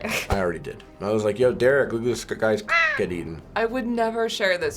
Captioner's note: caw!